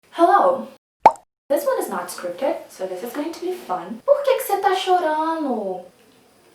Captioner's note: in Portuguese